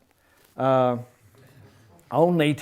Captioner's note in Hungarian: nevetés